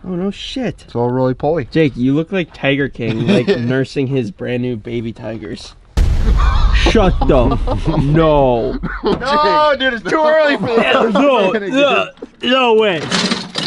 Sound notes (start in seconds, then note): 6.0 dramatic thunder; 6.3 laughter; 10.0 gags